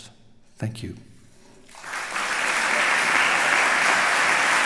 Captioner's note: applause